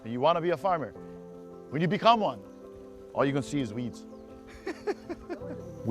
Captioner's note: laughter